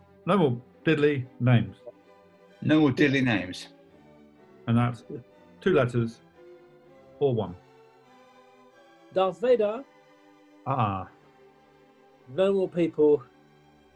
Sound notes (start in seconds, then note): 8.8 accented